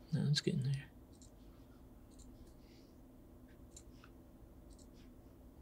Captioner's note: mouse clicking